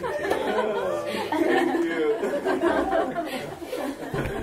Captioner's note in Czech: Smích